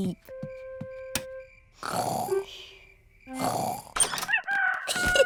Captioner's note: both snoring; rooster crowing